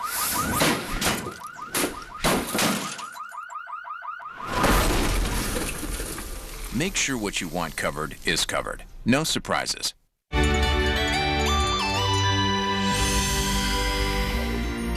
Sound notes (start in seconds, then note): 1.7 multiple thuds; 2.2 glass shattering; 4.4 loud crunch